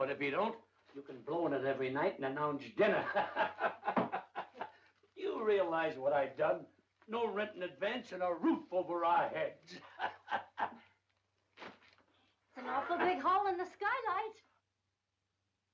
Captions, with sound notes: But if he don't, you can blow on it every night and announce dinner. (laughing) You realize what I've done? No rent in advance and a roof over our heads. (laughing) - That's an awful big hole in the skylight.